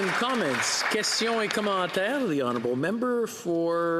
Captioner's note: some Applause